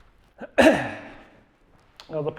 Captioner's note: clears throat